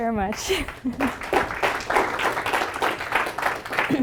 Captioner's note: applause